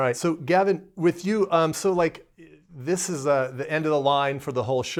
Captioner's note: none